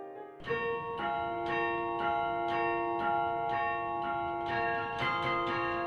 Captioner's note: chimes